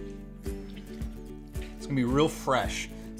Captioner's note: juice splashing